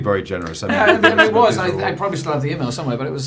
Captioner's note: laughing